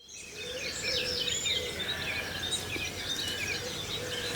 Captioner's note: morning birdsong